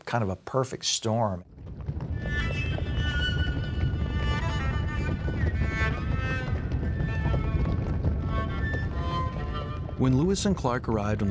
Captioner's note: bison stampeding